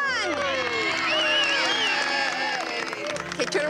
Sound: people cheering

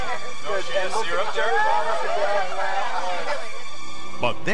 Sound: crowd laughing; crowd chattering

